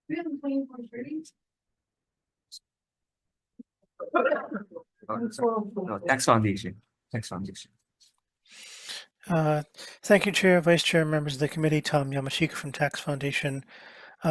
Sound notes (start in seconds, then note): 4.3 attendees chattering